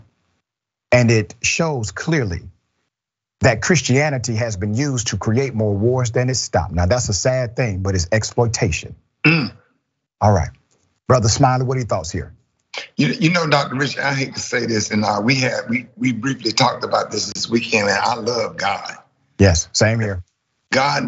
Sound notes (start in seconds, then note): 9.2 cough